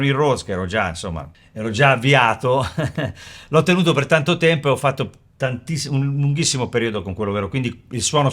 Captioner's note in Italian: risate